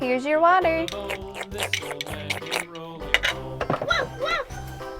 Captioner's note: slurping noises